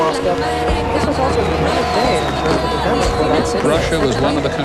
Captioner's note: fireworks sounds